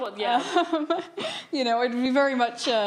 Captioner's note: laughing